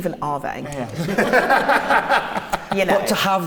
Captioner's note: laughs